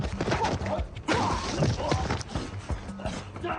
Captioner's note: big punch and screaming